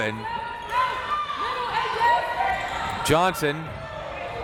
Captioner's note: crowd members shouting